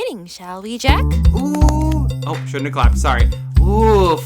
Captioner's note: clapping; clear throat